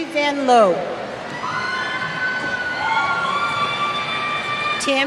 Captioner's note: cheers